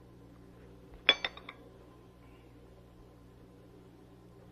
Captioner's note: dishes clinking